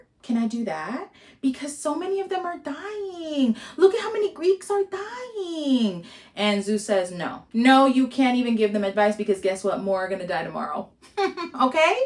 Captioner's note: mocking laughter